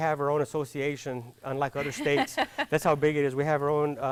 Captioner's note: laughing